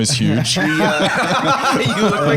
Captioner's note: all laughing